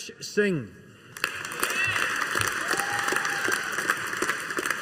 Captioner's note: audience applauding